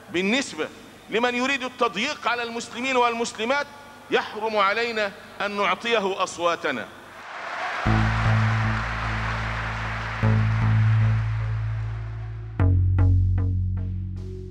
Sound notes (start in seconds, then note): 7.2 applause; 9.7 background music